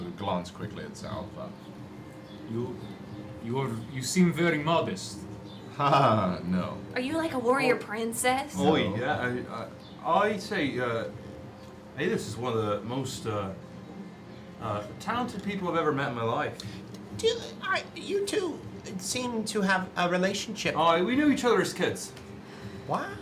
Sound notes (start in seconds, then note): 5.7 laughs